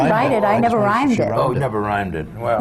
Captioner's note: laughs